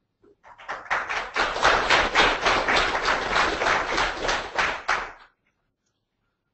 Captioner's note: audience applauding